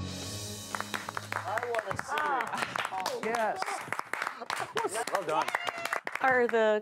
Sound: applause, excited chatter

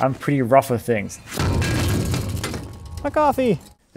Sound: wheel clattering

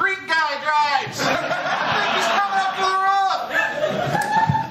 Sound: laughter

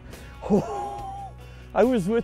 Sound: exhaling excitedly

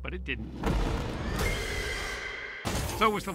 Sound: thunder striking

